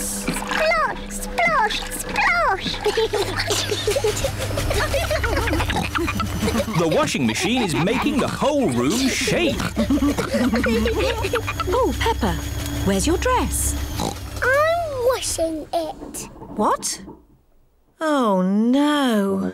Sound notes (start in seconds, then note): 3.0 giggling; 5.2 rumbling; 13.9 oinks